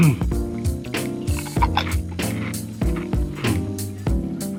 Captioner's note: crunching